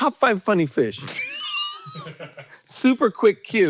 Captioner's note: Hank laughing